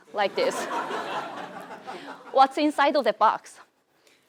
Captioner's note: laugh